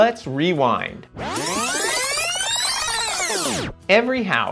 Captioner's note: tape squealing